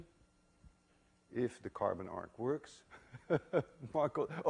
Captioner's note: chuckles